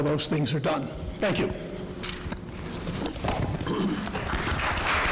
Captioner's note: applause